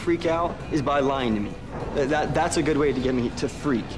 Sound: none

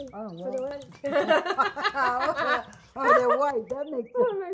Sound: both women laugh

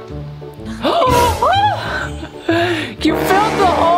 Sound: gasps

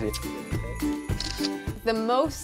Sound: camera flash

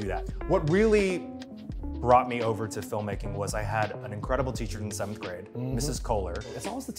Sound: none

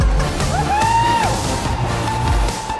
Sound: techno Music; cheering

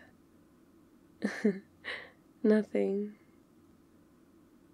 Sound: laughs

